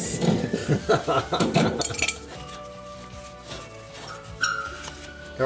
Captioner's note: metal squeaking